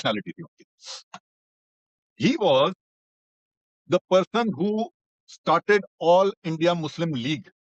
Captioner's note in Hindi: नाक से की जाने वाली आवाज़